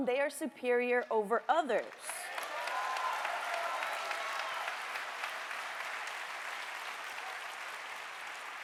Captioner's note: applause